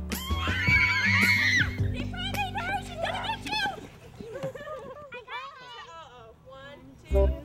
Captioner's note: children screaming with glee